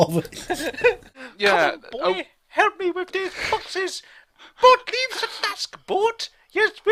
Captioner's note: falsetto